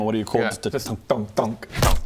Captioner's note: bonk bonk; bonk